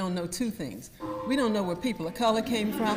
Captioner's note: gong rings